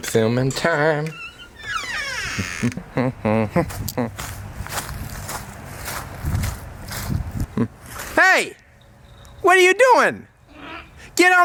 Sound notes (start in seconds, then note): 1.0 door hinge creaking; 3.2 humming; 4.6 leaves crunching; 10.4 grunting